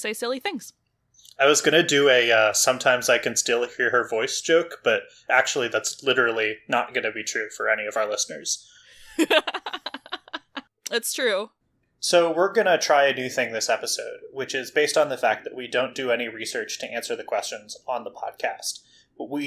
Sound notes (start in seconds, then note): 9.0 laughs